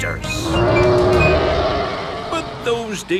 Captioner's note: roaring